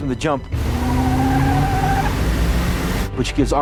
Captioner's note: van tires screeching